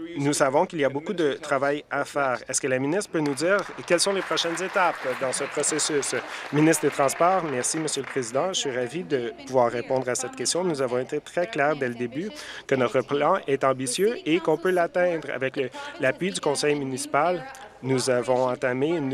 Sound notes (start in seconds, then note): 9.0 applause